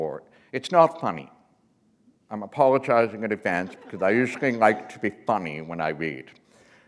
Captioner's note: laughter